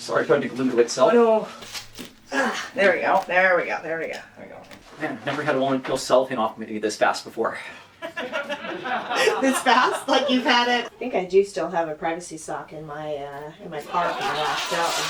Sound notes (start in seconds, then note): 8.0 laughter